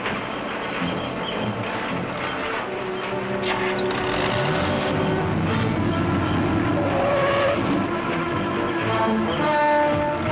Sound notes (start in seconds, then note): 3.4 engine revs; 4.1 tires screech